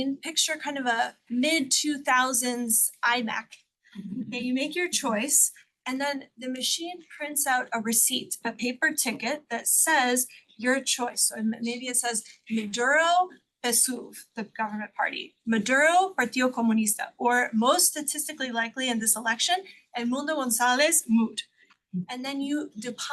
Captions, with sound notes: of a mid two thousands iMac, and you make your choice and then the machine prints out a receipt, a paper ticket that says your choice. So maybe it says Maduro, (speaks Spanish) the government party, Maduro, (speaks Spanish) or most statistically likely in this election, Edmundo Gonzalez, moot. And then you deposit